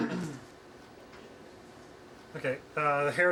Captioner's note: laughing